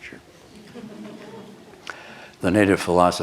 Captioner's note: soft laughter